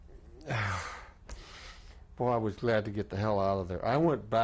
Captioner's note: sighs